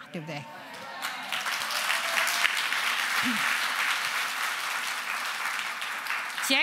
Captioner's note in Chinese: 鼓掌